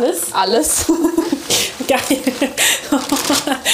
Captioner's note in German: lacht